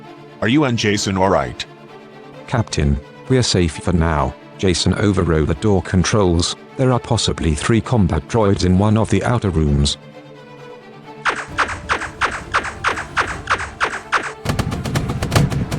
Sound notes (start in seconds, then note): 11.2 repeated weapons firing; 14.5 weapon impact sounds